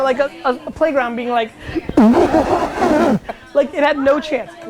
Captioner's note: laughs mockingly